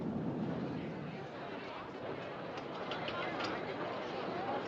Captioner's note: Passageiros Tagarelando